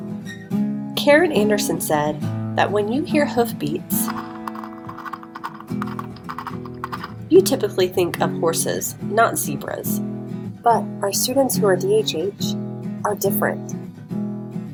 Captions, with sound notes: Karen Anderson said that when you hear hoofbeats... (hoofbeats) you typically think of horses, not zebras. But, our students who are D/HH are different.